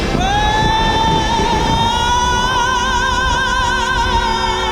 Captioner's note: vocalizing